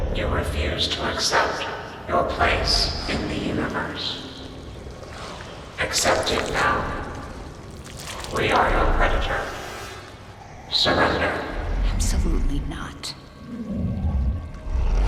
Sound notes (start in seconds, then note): none